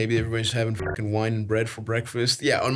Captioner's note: beeps